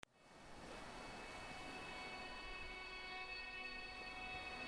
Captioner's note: sea waves sounds